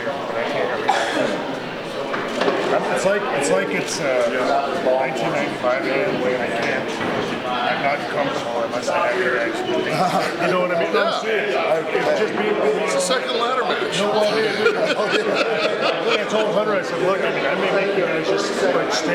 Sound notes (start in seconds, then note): 7.4 wrestlers chattering; 14.6 wrestlers chattering and laughing